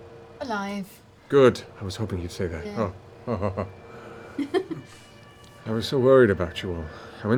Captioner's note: relieved chuckle